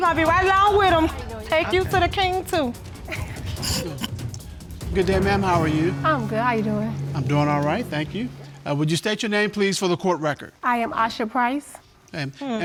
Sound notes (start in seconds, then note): 3.0 snickering